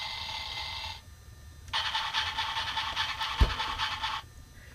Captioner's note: chuffing sound